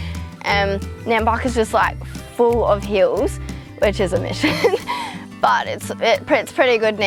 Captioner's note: laughs